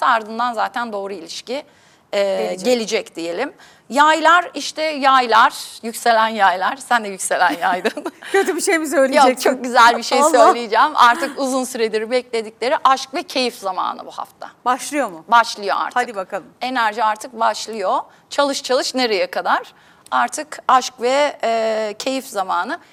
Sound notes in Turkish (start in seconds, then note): 7.5 kahkaha